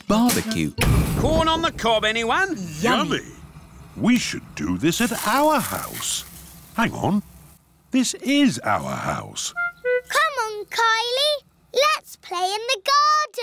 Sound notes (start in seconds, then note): none